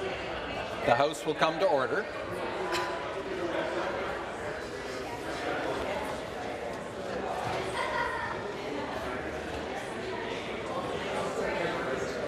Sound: conversation din

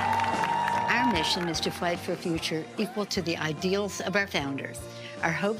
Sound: applause

